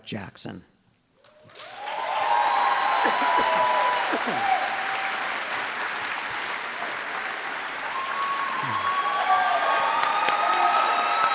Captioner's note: applause